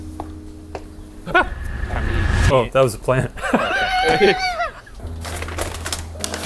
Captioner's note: laughs